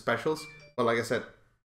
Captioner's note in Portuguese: Ding!